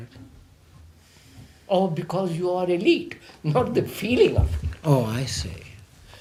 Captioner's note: laughs